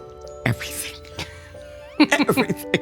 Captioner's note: chuckles